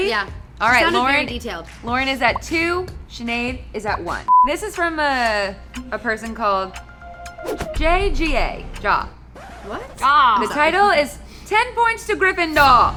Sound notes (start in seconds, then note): 4.3 beep; 9.3 record scratches